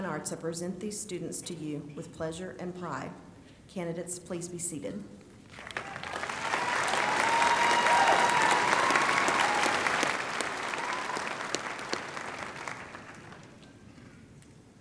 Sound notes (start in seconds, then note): 5.5 applause